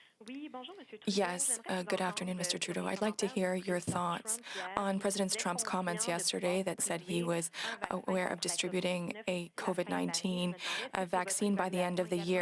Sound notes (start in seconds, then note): 6.9 speaking French